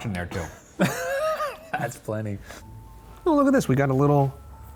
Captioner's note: laughs